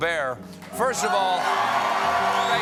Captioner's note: cheers and applause